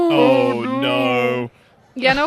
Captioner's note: laughs